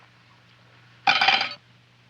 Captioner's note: cutlery clattering